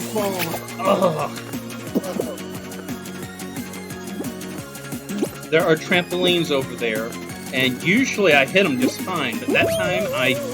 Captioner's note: groan